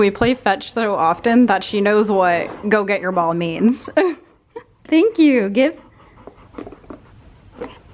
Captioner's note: laughs